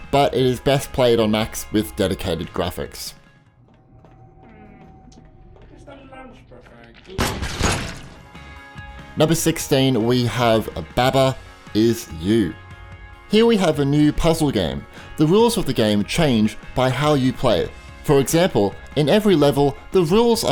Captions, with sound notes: but is best played on Macs with dedicated graphics. (computer voice mumbling) (gun banging) Number 16 we have Baba is You. Here we have a new puzzle game. The rules of the game change by how you play. For example, in every level the rules